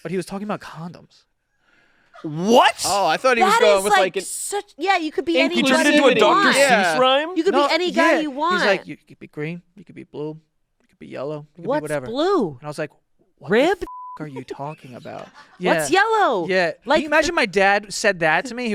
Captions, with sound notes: But he was talking about condoms. - What? - Oh, I thought he was going with like- - That is like such, yeah, you could be anybody you want. - And he turned it into a Dr. Seuss' rhyme. - You could be any guy you want. - Yeah, he's like, "You could be green, you could be blue, you could be yellow, you could be whatever." - What's blue? And I was like, "What the (beep)"- - Ribbed? - "are you talking about?" Yeah. - What's yellow? - Yeah, can you imagine my dad said that to me?